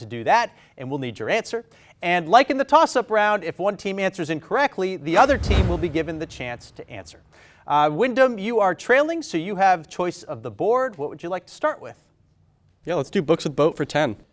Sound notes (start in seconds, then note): none